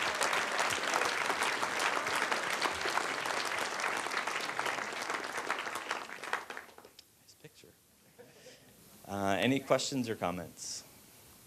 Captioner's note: applause